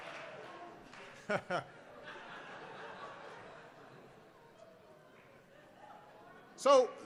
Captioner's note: laughter